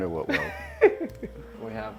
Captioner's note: laughs